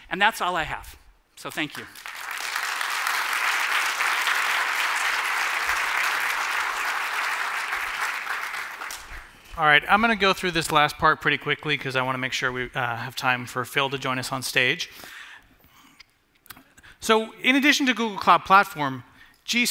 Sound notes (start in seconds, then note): 1.6 applause